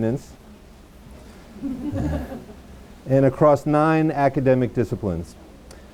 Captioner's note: audience laughs